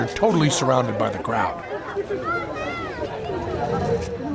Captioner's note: chatter